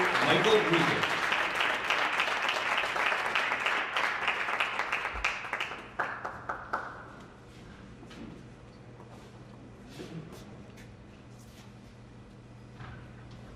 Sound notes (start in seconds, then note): 2.0 applause